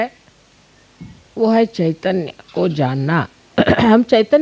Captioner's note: vibrations